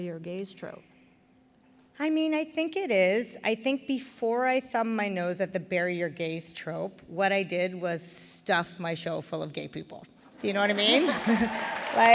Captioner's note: applause; laughter/Applause